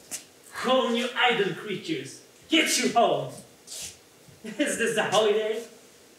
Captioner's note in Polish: Po angielsku